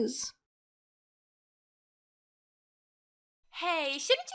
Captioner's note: silence